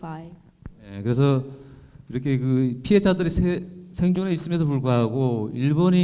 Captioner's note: speaking in foreign language